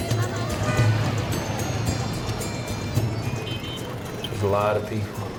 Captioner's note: traffic sounds